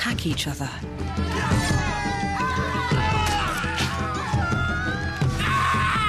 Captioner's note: yelling